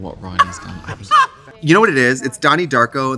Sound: Trixie laughs

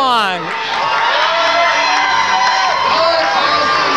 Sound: cheering

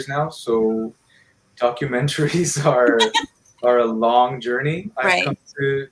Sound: laughs

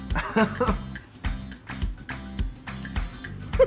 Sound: laughs

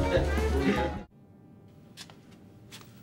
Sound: footsteps

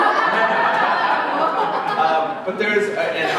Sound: laughter

